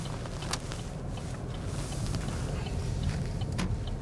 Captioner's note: indicator blinking